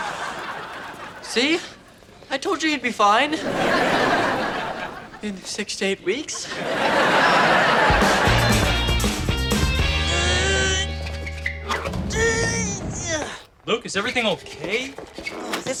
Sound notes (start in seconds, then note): 3.3 audience laughter; 7.7 upbeat music